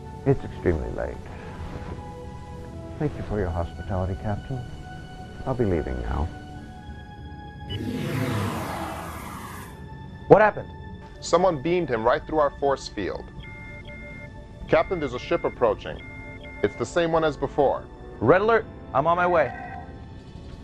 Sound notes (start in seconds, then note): 13.4 alarm sound; 19.8 klaxon; 20.4 shouting and screaming